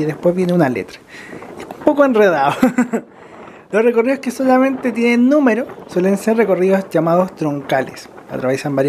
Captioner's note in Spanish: risas